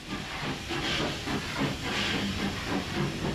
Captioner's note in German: Gemächliches Rattern